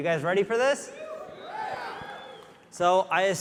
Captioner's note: audience cheering